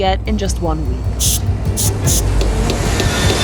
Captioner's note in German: Wind zischt; Hammerklopfen